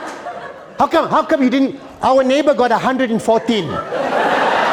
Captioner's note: laughter